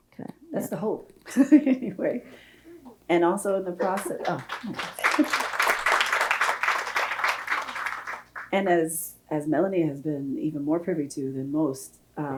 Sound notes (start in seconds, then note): 3.8 audience applauding